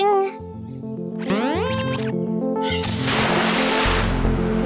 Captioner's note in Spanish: pitidos